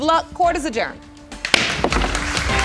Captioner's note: bangs gavel